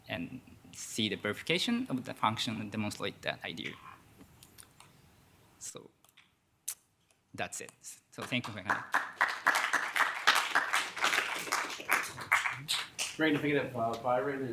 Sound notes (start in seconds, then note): 8.3 audience applauding